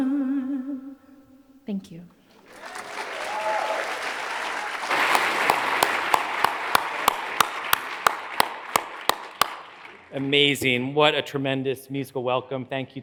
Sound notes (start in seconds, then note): 2.4 audience applauds; 5.4 hands clapping